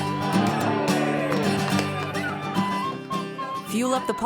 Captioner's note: loggers cheer